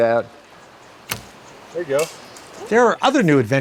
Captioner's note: arrow swooshing